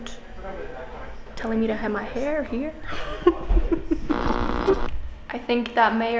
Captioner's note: laugh